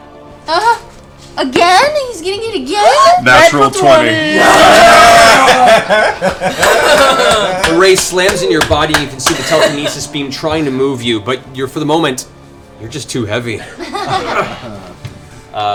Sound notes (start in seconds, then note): 4.1 cheering; 13.6 laughter